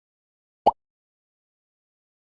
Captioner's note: pop